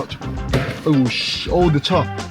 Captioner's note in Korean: 쇠 난간에 문 부딪히는 소리